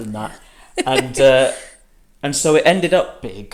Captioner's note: laughs